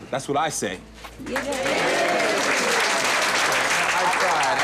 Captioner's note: cheers and applause